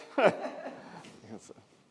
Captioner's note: audience laughs